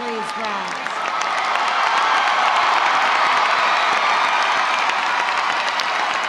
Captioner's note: audience applauding; audience cheering